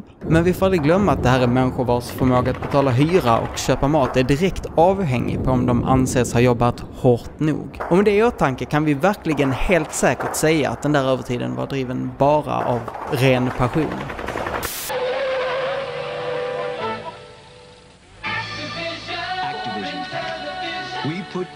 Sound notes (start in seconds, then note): 14.2 machine gun fire; 14.9 the truck screeches to a halt